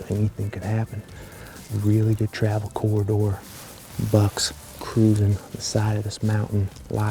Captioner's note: whispering